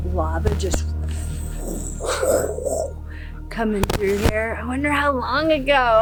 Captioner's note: loud whooshing